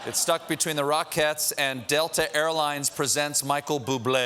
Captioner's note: laughter